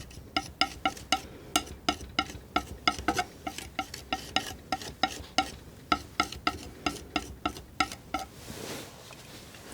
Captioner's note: tapping